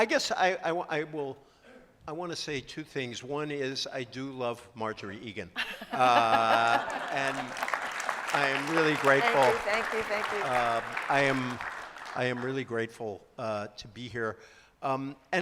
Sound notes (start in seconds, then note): 5.6 laughter and applause